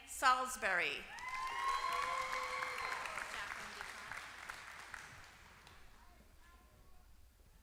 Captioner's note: applause